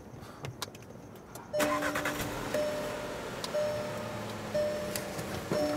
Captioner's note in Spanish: motor, pitido